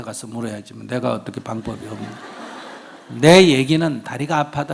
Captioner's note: audience Laughter